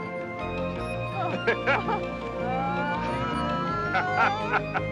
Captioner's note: both laughing